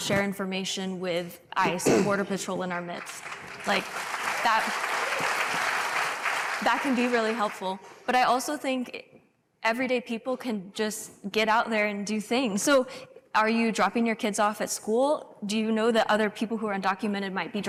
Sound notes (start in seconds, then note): 5.9 applause